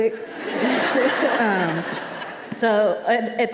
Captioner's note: audience laughing